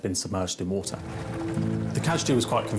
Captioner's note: lifeboat engine whirring